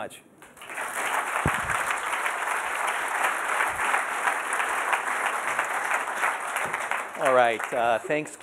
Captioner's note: applause